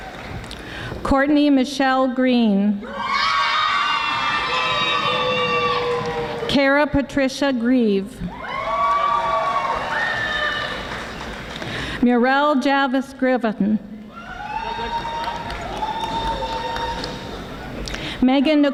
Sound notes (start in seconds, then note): 2.9 audience screaming; 8.3 audience cheering; 14.6 audience applauding